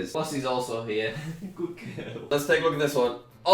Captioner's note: laughs